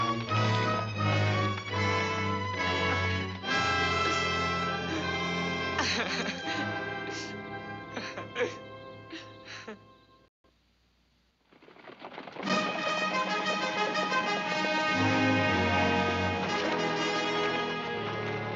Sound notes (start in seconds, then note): 5.2 crying; 12.4 fanfare theme playing